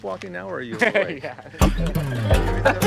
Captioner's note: laughs; funky music